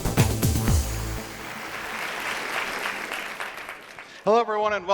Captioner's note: audience applauds